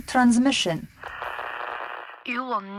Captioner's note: Static